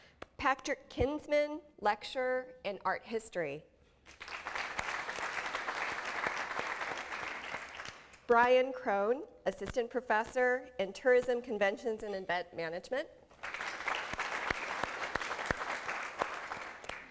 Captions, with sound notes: Patrick Kinsman, Lecturer in Art History. [ Applause ] Brian Krohn, Assistant Professor in Tourism, Conventions and Event Management. [ Applause ]